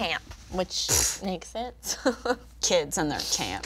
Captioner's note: exhaling heavily